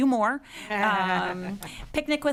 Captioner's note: laughing